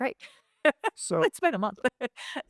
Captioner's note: laughs